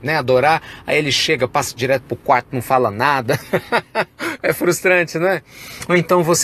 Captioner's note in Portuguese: risos